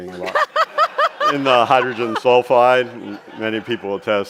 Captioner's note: chuckles